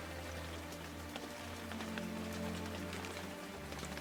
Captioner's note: rain pattering